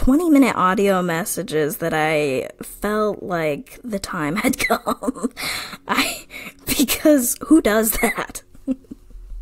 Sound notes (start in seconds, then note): 4.4 laughs